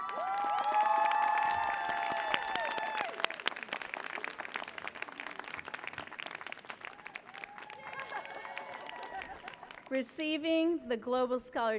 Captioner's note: applause